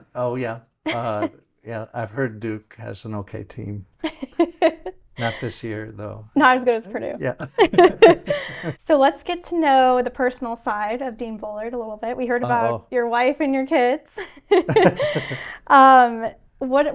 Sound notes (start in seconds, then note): 5.2 chuckling; 7.2 laughing; 14.1 laughs; 14.5 chuckles